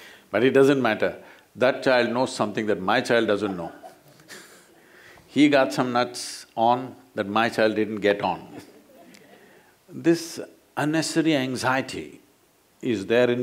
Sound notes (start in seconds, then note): 3.3 laughter; 9.0 laughs